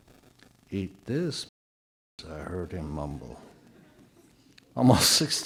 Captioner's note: audio drop